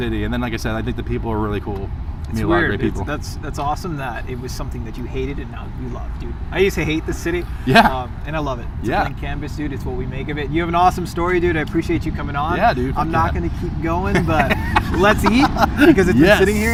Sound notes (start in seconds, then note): 14.0 laughs